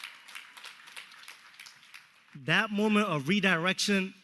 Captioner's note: applause